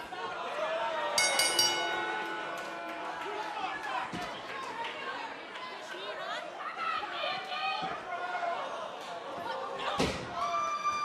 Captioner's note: bell ringing